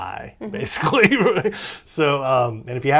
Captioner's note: laughs